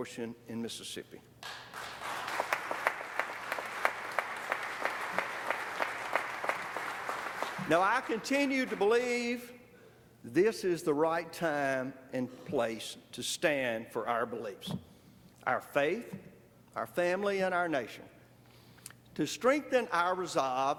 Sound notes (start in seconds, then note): 8.9 applause